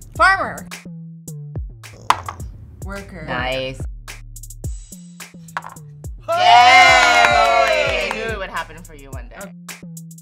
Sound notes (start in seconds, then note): 2.1 dice clatters; 5.6 dice clatters; 6.2 cheers